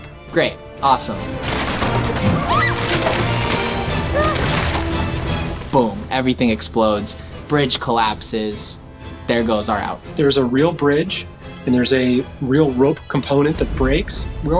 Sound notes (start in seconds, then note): 2.3 screaming